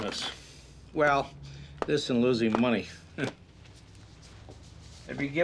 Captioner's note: scoffs